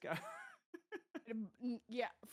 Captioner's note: laughing